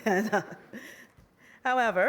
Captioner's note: laughter